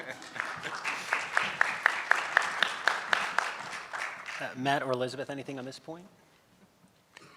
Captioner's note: laughs